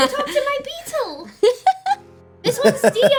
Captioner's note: laughing; laughing